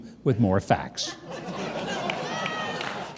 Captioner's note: audience laughing